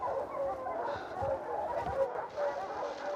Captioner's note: dogs barking in distance